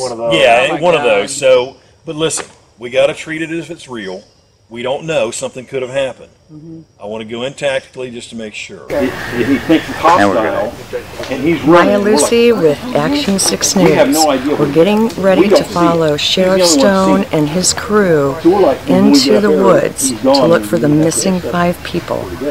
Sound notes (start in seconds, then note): 9.3 distant shouting